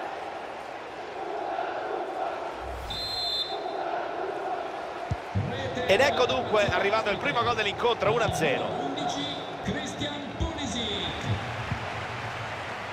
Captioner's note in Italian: Applauso; Applauso